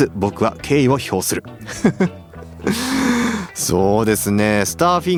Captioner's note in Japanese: 息をのむ音